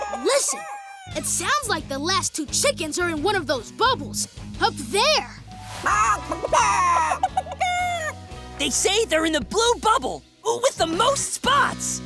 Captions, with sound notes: Listen, it sounds like the last two chickens are in one of those bubbles up there. [clucking] They say they're in the blue bubble with the most spots.